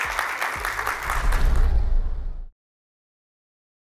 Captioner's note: applause